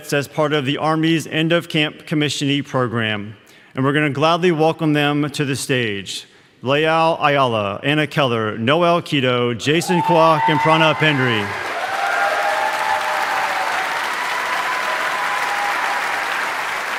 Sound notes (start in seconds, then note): 11.0 audience cheering; 11.8 audience applauding